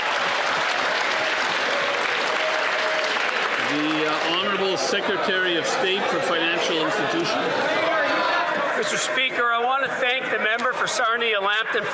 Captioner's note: some Applause